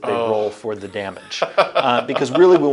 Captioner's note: laughs